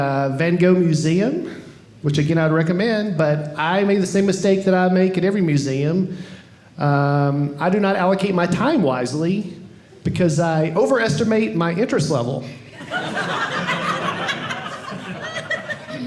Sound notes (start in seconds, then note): 12.7 audience laughing